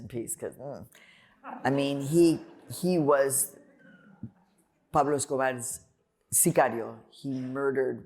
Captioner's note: laughter